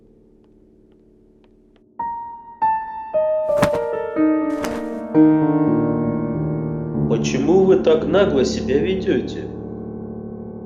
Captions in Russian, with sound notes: (звук шлепка ногами о стол) – Почему вы так нагло себя ведёте?